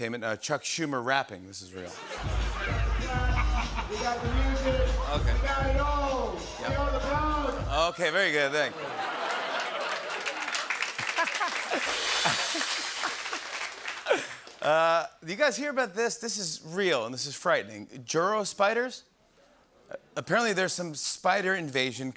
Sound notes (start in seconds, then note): 9.2 applause; 11.1 laughs